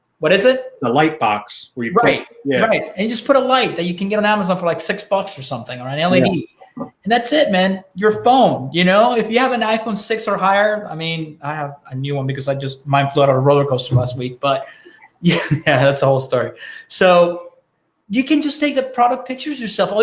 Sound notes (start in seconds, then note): 14.5 laughing